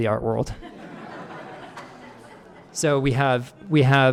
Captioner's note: audience laughing